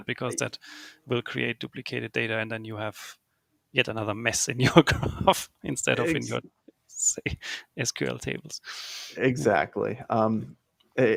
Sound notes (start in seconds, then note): 5.8 laughs